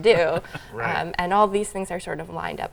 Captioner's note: laughs